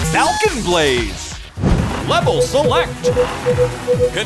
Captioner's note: beeping